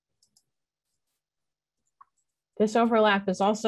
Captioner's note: mouse clicks